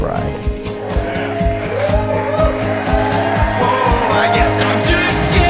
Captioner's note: guests cheering